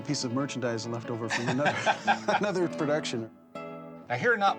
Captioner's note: laughs